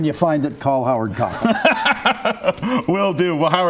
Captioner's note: laughs